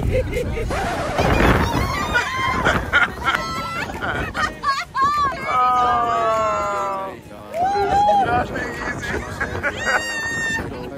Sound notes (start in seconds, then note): 0.2 record needle scratching; 2.5 shrieking laughter; 8.2 howling laughter